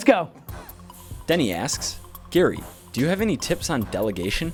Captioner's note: voiceover